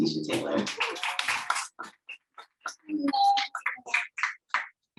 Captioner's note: audience applauding